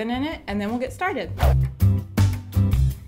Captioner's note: swoosh; upbeat music